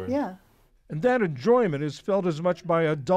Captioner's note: voice-over